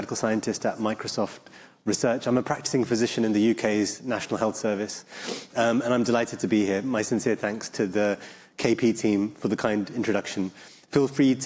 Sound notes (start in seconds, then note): none